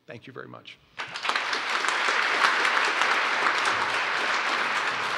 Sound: applause

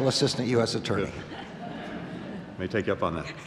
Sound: laughter

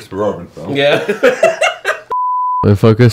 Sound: laughing; beep

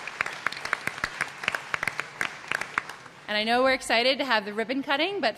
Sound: applause

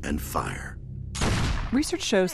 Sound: gunfire

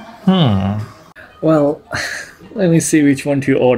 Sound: exhales

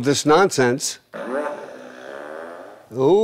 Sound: fart Machine Goes Off

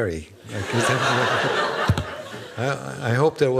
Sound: laughing

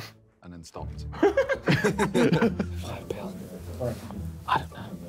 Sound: Vik whispering

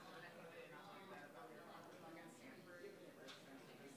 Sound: group chattering

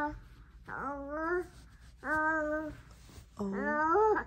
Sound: cooing

